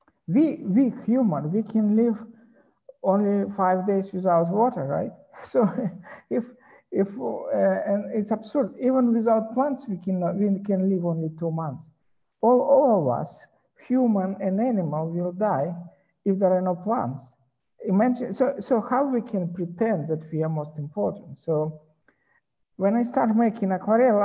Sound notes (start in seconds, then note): 5.4 chuckles